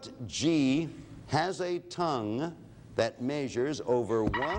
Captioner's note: alarm sounds